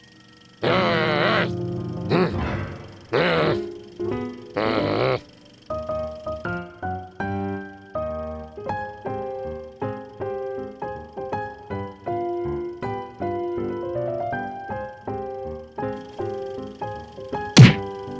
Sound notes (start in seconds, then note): 0.6 growls; 1.4 grunts; 2.7 low grumbling; 5.2 vaudeville music; 17.6 smacks